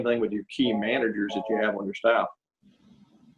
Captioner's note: phone ringing